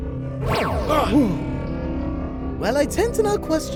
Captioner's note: oos and ahhs; ahhs and eeps